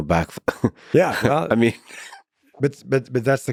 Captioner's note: laughs